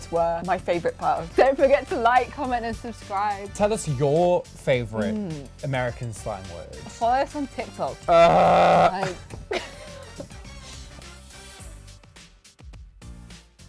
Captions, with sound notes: were my favorite part of this. - Don't forget to like, comment, and subscribe. - Tell us your favorite American slang words. - Find us on TikTok. (groans) (relaxed music)